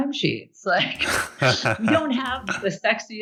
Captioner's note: both laugh